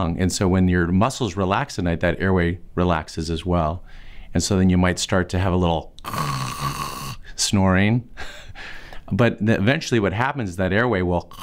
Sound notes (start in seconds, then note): 6.0 snoring